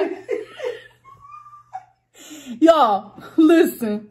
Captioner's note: laughs